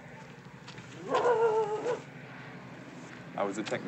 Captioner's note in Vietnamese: Chó sủa